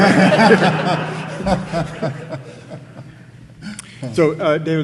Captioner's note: audience laughing